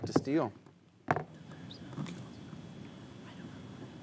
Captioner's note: whispers